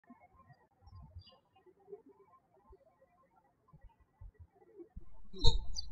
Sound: birds chirping

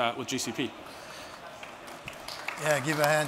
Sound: applause

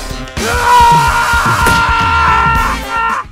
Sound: yells

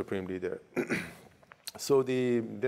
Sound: clearing throat

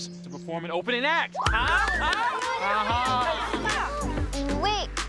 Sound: children screaming and clapping

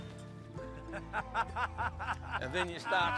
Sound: laughs

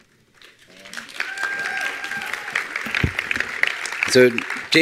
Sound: attendees applauding

